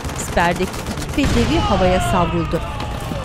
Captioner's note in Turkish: Patlama sesi; Çığlık sesleri